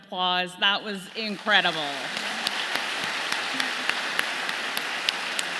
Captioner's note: audience clapping